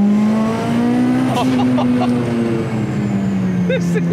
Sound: car engine revving; laughs

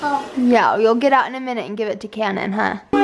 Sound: voiceover

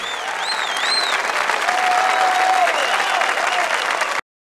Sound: crowd cheering

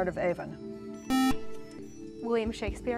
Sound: buzzer

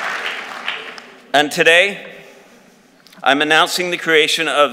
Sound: applause

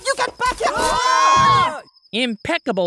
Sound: they all scream

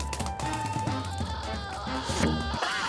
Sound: screaming

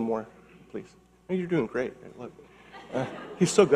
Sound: audience laughing

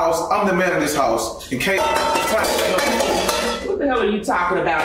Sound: pot clanking drowns out speaker

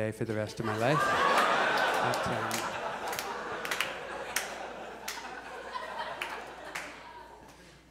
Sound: audience laughs

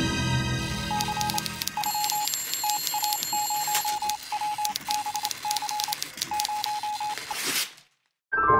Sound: suspenseful music; telegraph beeping, typing

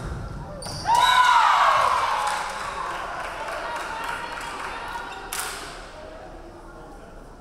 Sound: crowd cheering; referee whistling

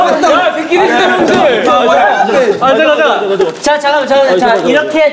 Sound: laughing

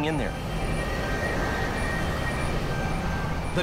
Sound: plane whirring loudly

